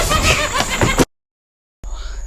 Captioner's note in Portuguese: KEVIN ri loucamente enquanto NOAH foge; Silêncio